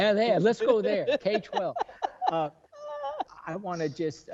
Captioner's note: board laughing